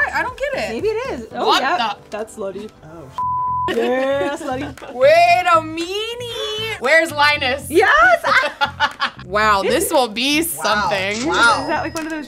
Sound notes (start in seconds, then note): 3.2 beep; 8.2 laughing; 11.5 register rings